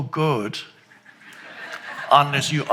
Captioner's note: audience laughs